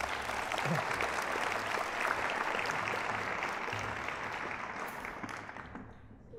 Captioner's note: applause